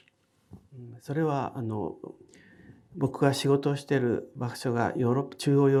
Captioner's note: speaking in foreign language